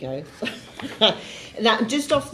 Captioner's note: laughing